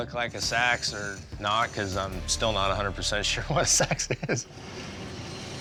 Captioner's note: laugh